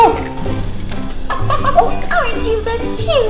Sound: Minnie laughs

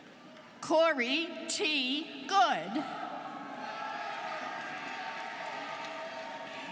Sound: students cheering

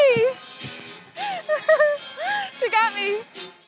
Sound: laughing

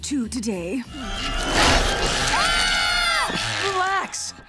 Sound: screaming

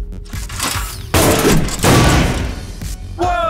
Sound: crashing

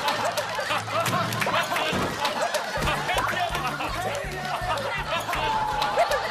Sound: dying of laughter

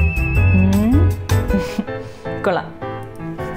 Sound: chuckles

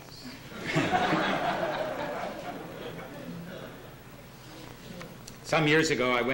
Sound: laughter

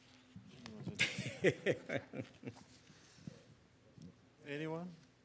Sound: laughs

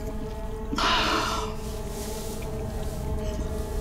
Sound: sighs

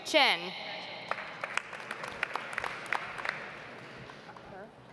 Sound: audience applauds

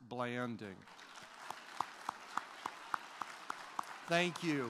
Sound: applause

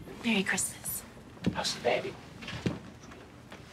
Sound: whispers

